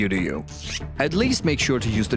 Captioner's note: zip